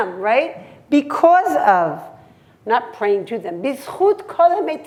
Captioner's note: hebrew; hebrew